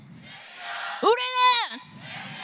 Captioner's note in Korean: 관중들